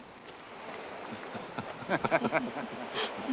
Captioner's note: cyril and hugh laugh